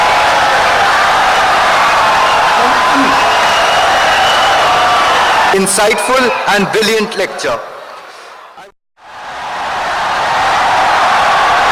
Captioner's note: wild applause and cheering for 17 seconds